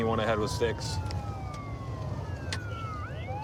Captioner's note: sirens wailing